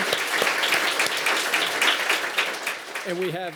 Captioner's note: applause